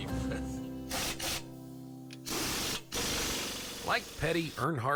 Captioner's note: engine sputtering